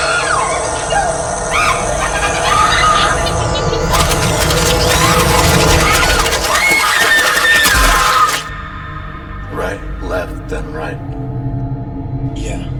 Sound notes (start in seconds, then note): 0.1 Jaime laughing; 1.5 Nurse Lee screaming; 3.9 flesh squelching; 4.0 Nurse Lee screaming